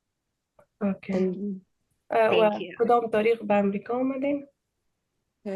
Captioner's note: speaking in Dari